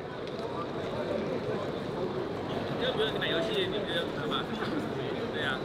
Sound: people chattering

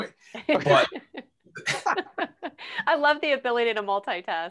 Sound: laughing

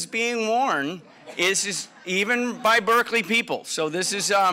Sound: laugh

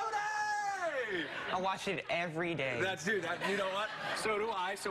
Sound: laughter

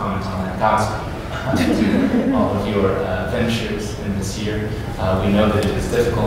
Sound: laughter

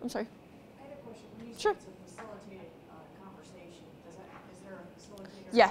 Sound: voiceover

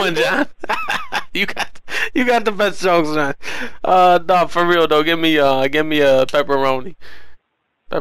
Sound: laughing

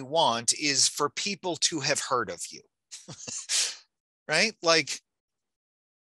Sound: chuckling

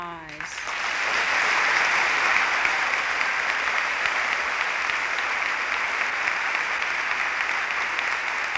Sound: applause

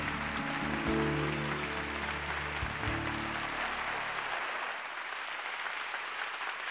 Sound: applause

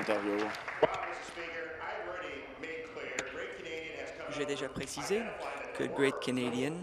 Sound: applause

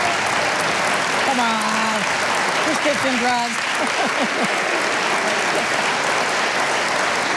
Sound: laughing

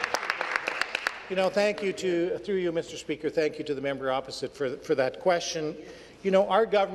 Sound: applause

